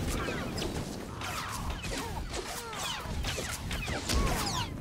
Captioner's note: gunshots